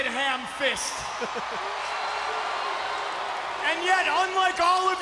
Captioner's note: crowd cheers